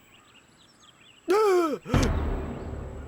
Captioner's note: gasping